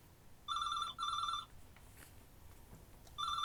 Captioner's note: phone rings